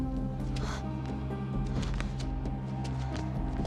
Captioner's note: panting